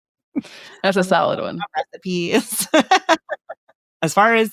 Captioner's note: laughs